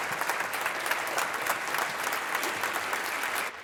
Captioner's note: applause